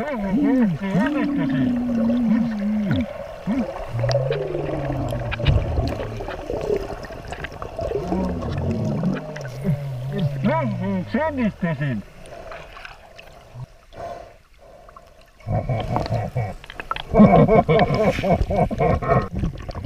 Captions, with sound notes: I finally made it I made it [breathing] [laughing] [laughing]